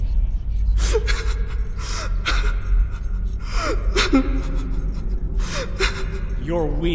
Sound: crying

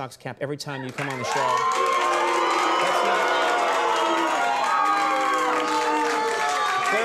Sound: audience applauding; audience booing

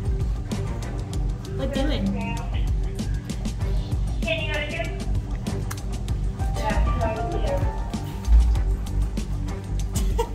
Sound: background music; background chatter/radio chatter; background music; laughs

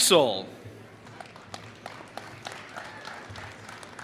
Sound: applause

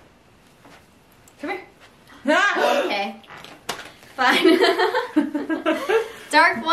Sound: gasps

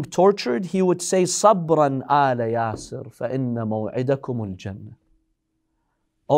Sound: Arabic

